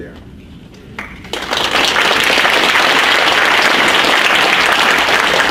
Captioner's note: audience applauds